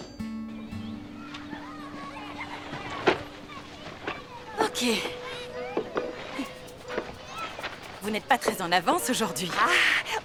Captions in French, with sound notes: (cris d'excitation) D'accord... (rires) - C'est un peu juste aujourd'hui, hein ? aujourd'hui, hein ?